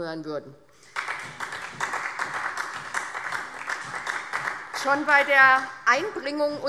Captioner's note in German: Beifall SPD